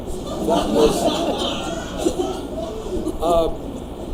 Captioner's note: audience laughs